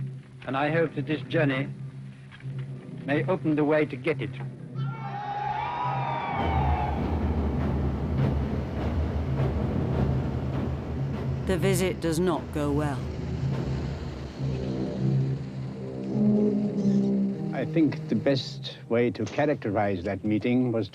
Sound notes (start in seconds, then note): 4.8 cheering